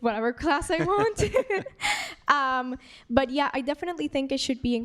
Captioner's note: laughs